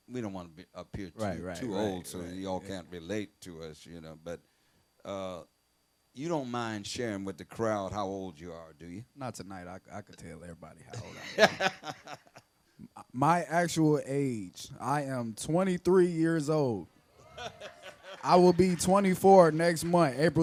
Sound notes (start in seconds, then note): 11.0 laughs; 17.6 audience applauding